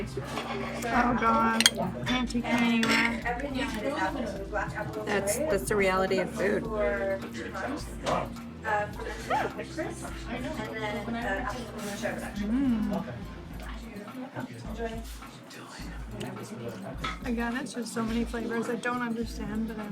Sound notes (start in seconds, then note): 13.0 hums